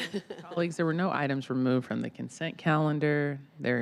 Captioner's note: laughter